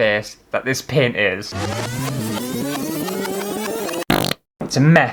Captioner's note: rewinding Noises; wet Fart